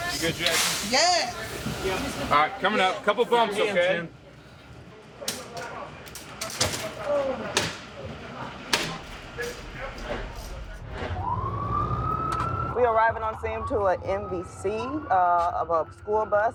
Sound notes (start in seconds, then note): 10.7 siren